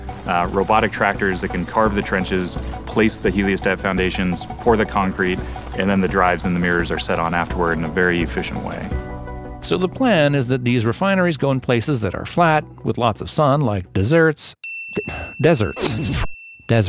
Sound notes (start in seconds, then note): 14.6 bell dinging